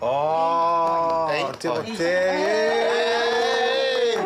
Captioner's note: cheering